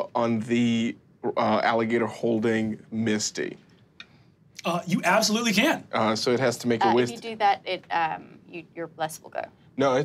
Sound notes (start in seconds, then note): none